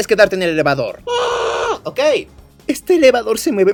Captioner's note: scream of pain